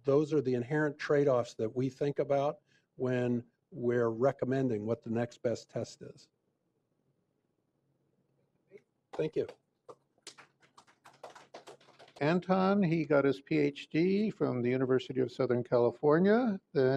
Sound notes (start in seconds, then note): 11.8 applause